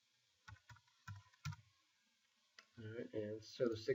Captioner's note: keyboard clicking